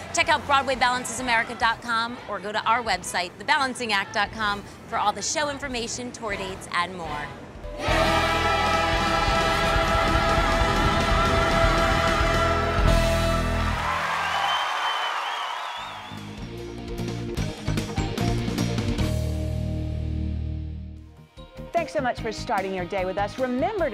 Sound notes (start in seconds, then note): 13.3 audience applause